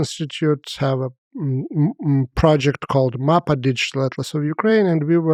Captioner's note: speaks foreign language